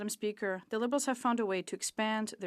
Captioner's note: speaking French